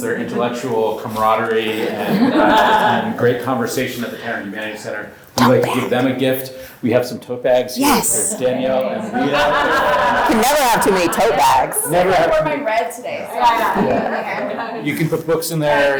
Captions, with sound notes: their intellectual camaraderie, and great conversation at the Tanner Humanities Center, we like to give them a gift. - Tote bag! - We have some tote bags here for Danielle and Leah. - Yes! (audience laughs) - You can never have too many tote bags. - You can never have too many. - It's a good thing I wore my red today. (group laughs) - You can put books in there.